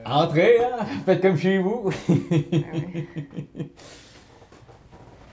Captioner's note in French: rires